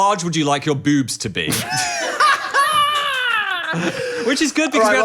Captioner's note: everyone laughing